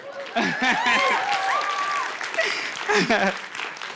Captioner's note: cheers; applause